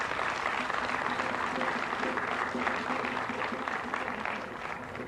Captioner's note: applause